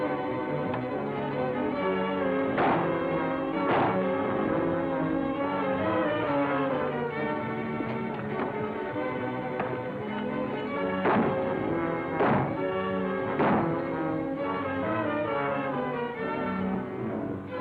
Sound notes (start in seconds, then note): 2.6 weapon firing; 5.7 dramatic music; 8.7 feet thudding; 11.0 weapon firing; 14.6 dramatic music